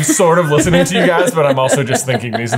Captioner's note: laughing